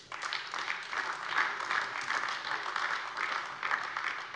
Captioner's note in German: Beifall AfD